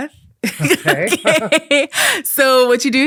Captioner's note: both laughing